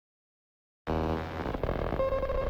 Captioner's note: static